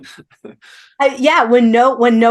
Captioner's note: laughing